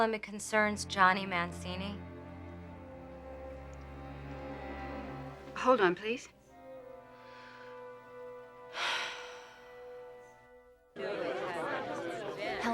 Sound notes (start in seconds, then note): 2.8 dramatic orchestral music continues; 8.7 Lisa sighing; 10.9 guests chattering